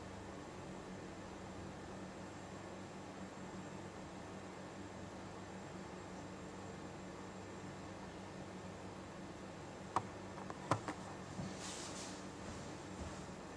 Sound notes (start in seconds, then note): none